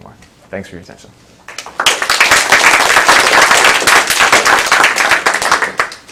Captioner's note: applause